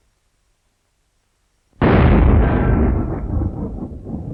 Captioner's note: booming